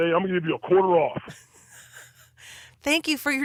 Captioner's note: laughs